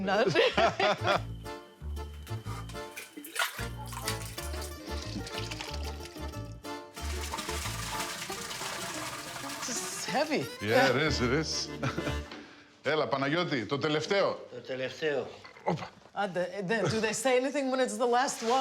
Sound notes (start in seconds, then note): 0.3 laughing; 5.0 soft slopping; 7.0 slopping; 12.9 speaking in Greek